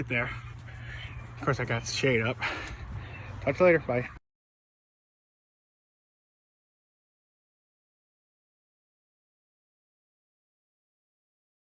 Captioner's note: sigh